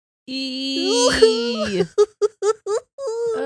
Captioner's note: both groans